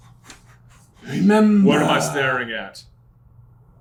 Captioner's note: accented